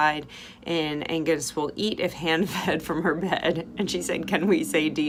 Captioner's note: laughing